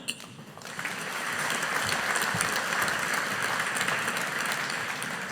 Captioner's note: audience applauding